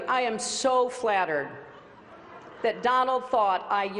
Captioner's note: laughter